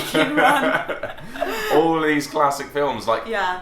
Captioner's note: laughs